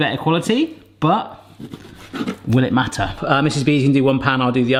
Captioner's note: knife grinding